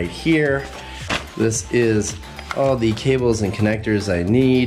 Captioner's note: travel bag plops